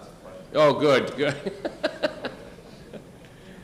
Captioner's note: laughs